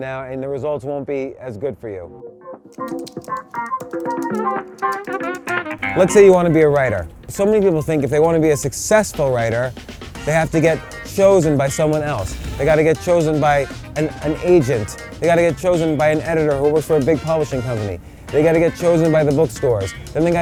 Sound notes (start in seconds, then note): 2.3 gentle upbeat music; 2.7 typing